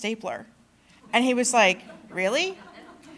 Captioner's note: laughter